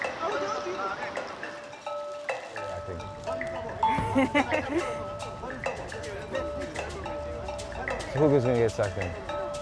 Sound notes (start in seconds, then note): 3.9 laughing